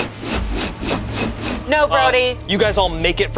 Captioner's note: whooshing